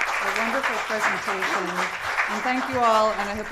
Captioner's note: applause